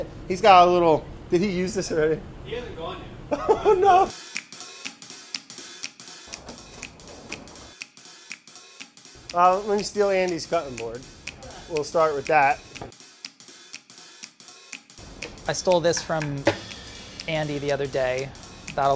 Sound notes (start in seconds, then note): 3.3 laughs